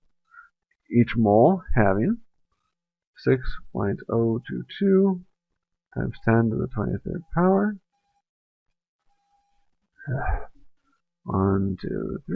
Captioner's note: sigh